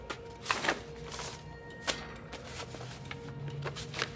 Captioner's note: paper rustling